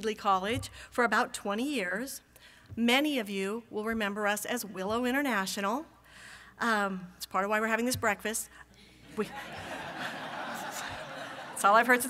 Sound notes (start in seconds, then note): 9.2 laughter from audience